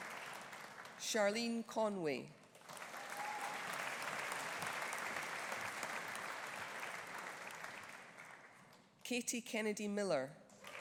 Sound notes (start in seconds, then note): 2.6 audience applauding; 2.9 audience cheering